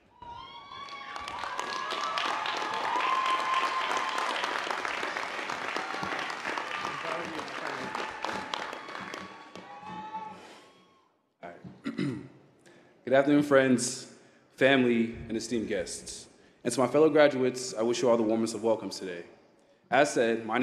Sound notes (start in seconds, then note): 6.6 applause